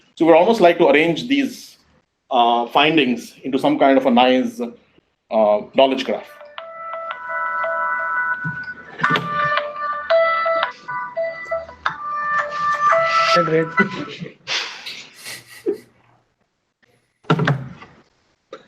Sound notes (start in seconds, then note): 6.3 cellphone ringing; 14.8 chuckling